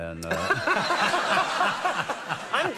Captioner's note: laughing